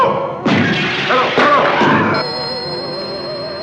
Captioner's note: screeches; ring